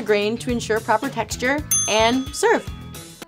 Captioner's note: ding